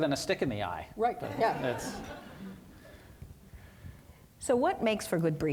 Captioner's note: audience laughing